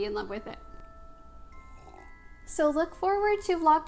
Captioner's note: sips coffee